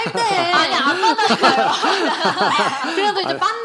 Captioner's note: laughter